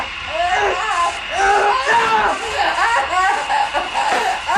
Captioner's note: Billy screams; Gina crying